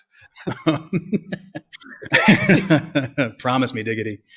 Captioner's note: both laugh